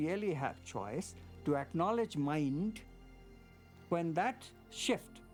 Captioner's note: none